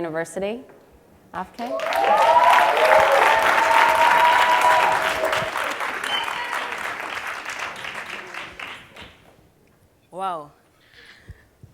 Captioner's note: cheers and Applause